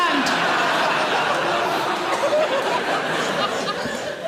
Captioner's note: audience laughing